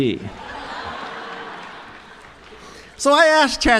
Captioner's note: chuckles